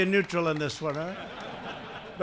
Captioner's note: laughter